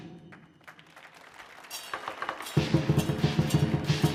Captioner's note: audience applauding